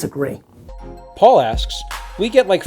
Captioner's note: voiceover